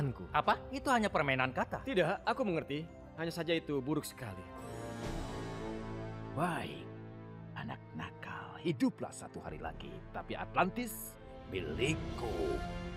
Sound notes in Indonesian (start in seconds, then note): none